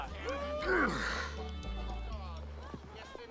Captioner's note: Eli grunts; lively music drops